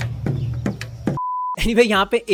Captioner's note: beep